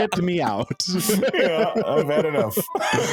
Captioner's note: laughing